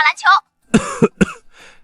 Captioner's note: cough, cough